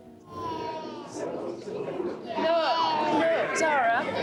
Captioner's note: Harry crying